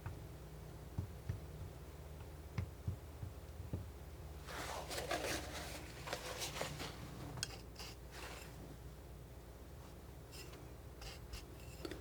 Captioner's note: scratching